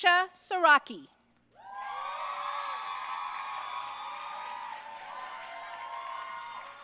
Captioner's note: audience cheering and applauding